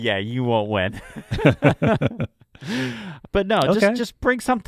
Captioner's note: both laughing